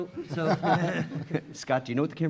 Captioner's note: chuckling